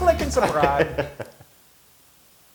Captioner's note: laugh